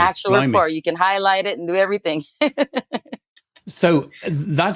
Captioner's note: laughs